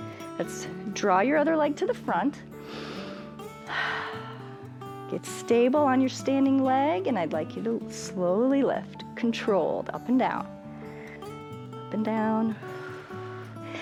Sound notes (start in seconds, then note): 2.6 inhales and exhales; 12.5 exhales